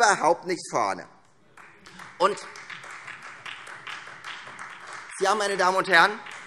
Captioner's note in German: Beifall Freie Demokraten und vereinzelt SPD